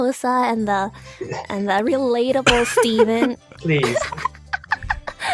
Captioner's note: cackling